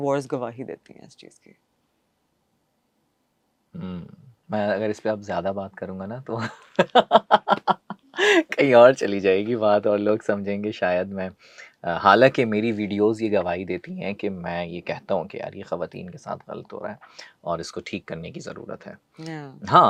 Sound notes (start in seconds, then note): 6.4 laughs